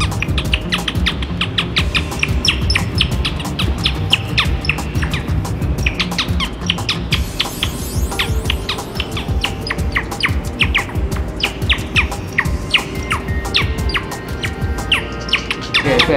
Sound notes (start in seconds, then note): 5.7 existential chirping; 11.4 profane Telephone noises